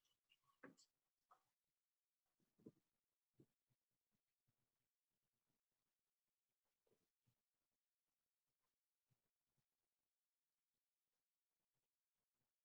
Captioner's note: silence